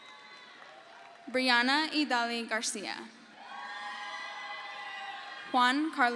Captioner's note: crowd cheers